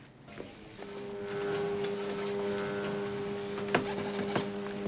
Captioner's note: fax machine buzzing